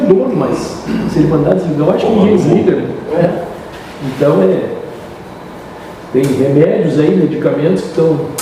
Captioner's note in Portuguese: limpando a garganta